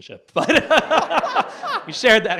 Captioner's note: audience laughs